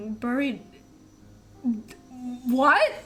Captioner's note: stutters